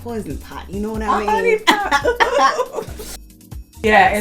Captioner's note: chuckles; cough laughter